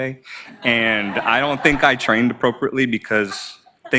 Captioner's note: audience laughs